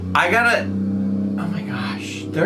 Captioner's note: vehicle revs